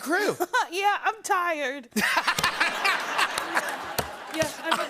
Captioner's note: laughter